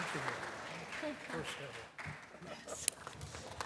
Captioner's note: applause